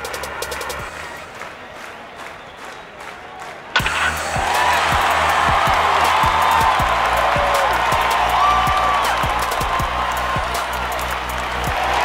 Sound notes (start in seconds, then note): 4.5 crowd cheering